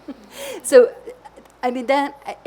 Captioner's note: laughs